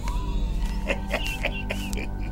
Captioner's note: laughs